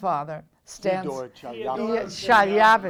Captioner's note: crowd